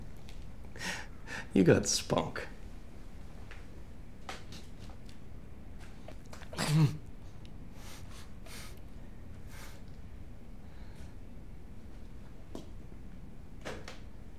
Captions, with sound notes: you got spunk. (gasps)